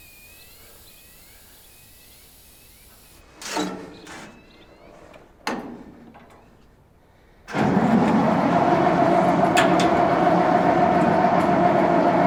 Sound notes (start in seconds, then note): 7.5 engine cranking